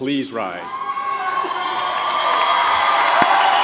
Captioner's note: applause